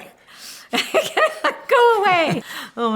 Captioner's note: laughter